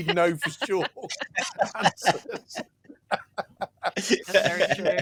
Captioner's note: laughter